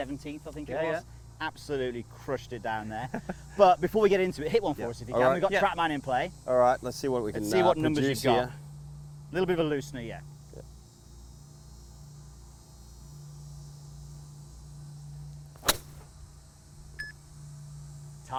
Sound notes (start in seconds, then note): 15.5 ball cracks; 17.3 beep